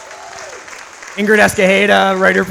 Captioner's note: audience applauds